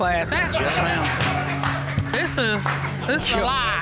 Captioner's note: audience laughs